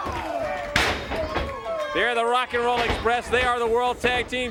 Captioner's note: crowd cheering